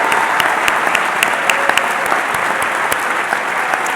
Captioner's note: applause